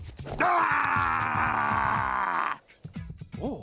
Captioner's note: growling